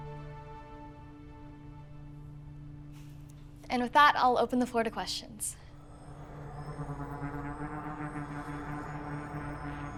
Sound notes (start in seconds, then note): 5.7 faint whooshing